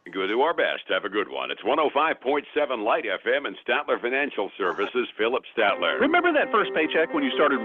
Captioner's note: radio